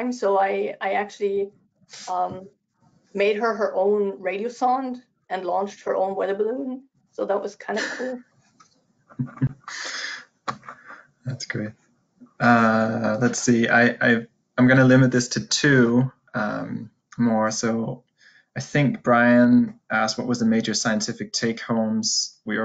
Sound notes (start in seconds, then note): 9.2 laughs